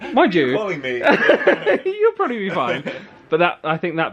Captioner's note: laughs